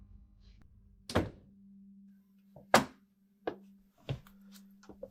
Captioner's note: door shuts